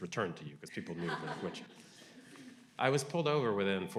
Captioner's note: audience laughing